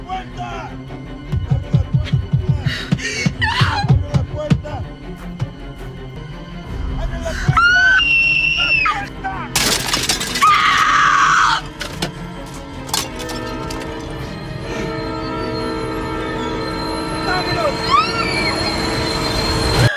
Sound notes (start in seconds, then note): 7.5 screaming; 9.5 glass breaking; 13.4 train horn blowing; 18.0 vehicles crashing